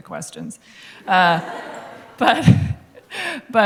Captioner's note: laughter